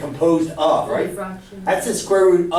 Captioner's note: voiceover